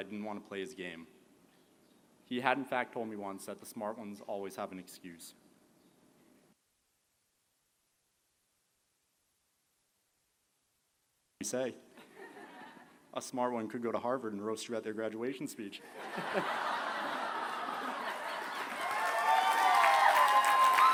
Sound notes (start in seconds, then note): 15.8 laughter; 19.3 applause